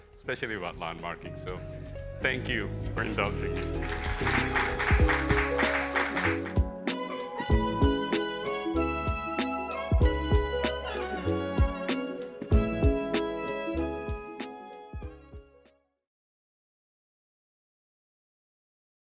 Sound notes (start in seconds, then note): 6.7 applause